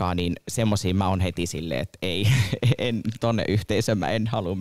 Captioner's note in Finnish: Naurahtaa